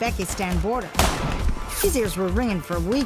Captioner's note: gunshots blasting